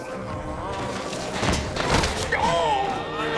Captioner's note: thud